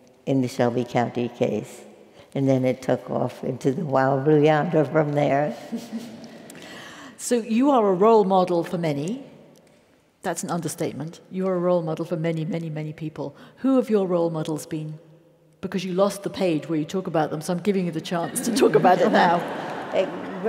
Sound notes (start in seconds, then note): 6.6 laugh; 18.3 laugh